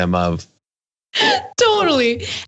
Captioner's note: laugh